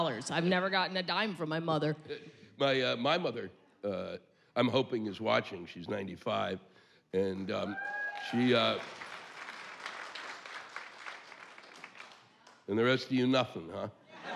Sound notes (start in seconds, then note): 7.5 cheers